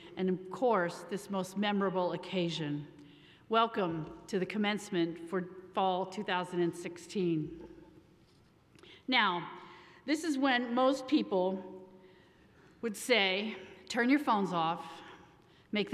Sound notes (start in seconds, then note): none